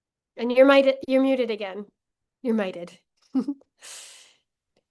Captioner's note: laughs